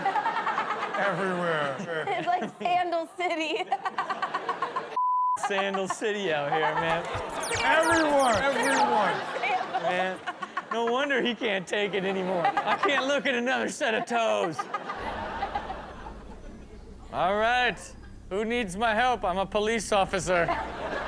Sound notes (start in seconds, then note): 0.1 Chanel chuckles; 3.2 audience laughs; 6.9 beep; 13.9 audience laughs